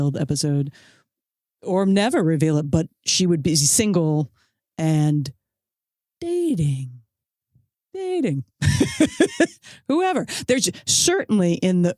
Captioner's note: laughs